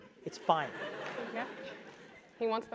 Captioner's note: laugh